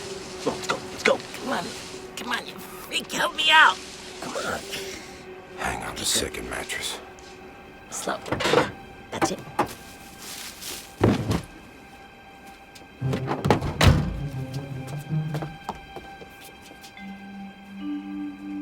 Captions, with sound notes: Come on. [ Grunts ] Come on. Let's go. Let's go. Come on, you freak. Help me out. Come on. Hang on just a second, mattress. Slow. Yeah. That's it. [ Body thuds ]